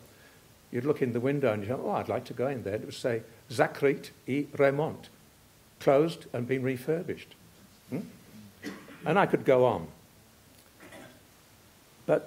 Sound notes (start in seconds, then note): 5.0 russian